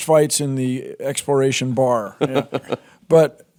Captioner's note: Jordan laughs